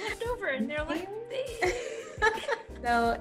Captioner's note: laughs